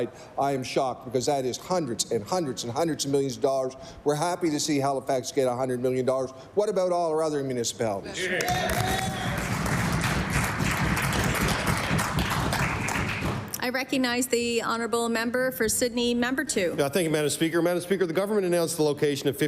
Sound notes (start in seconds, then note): 12.8 applause